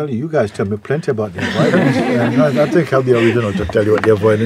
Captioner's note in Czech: smích